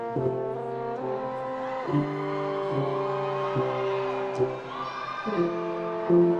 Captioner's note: attendees cheering and applauding